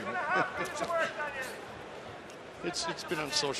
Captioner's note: chuckling